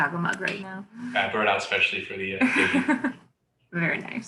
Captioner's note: chuckles